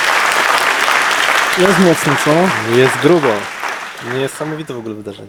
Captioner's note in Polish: aplauz